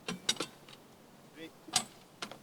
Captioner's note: poles clank